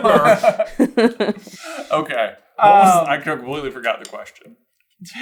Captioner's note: team laughing